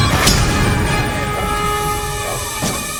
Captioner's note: alarm tones; robot explodes; shotgun blasts; robot powers down